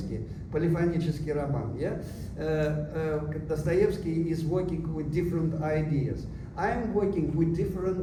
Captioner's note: non-english